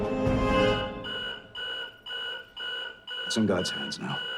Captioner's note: timer beeps